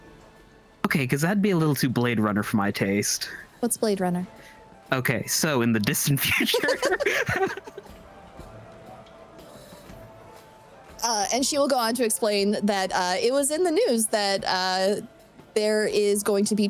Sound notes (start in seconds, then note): 8.0 laughing